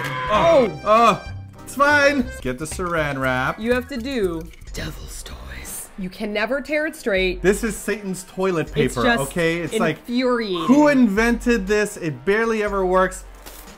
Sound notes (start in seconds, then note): 4.9 in creepy low whisper tone